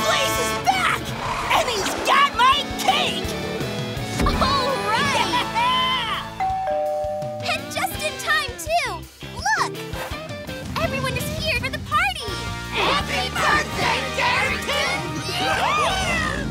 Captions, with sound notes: Blaze is back, and he's got my cake! -All right! -Yeah! [doorbell ringing] And just in time too, look! Everyone is here for the party. Happy birthday Darington! [cheering]